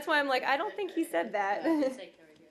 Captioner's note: laughter